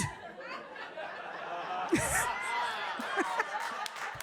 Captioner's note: audience laughing